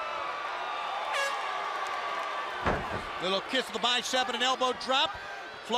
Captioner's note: crowd chatter